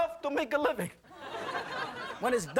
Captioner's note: audience laughing